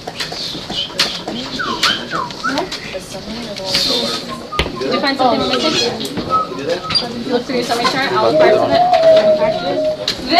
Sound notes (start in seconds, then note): 2.6 chatter